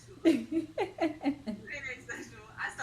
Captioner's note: laughs